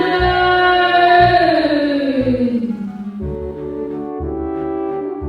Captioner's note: slow motion yelling